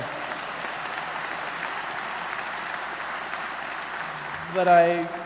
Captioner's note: applause